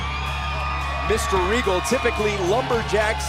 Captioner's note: crowd cheering